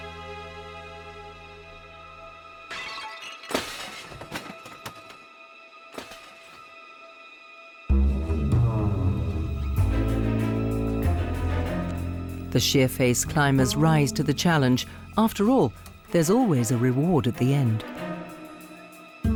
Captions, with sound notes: (glass crashing) (suspenseful music) The sheer-face climbers rise to the challenge. After all, there's always a reward at the end.